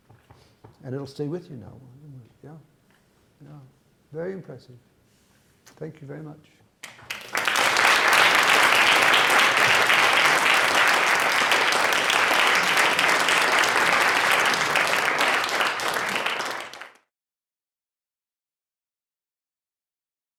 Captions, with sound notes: And it will stay with you now, won't it? Yeah, yeah, very impressive. Thank you very much. (audience applause)